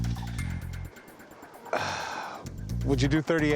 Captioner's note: sighs